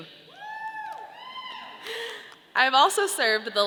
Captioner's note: audience cheering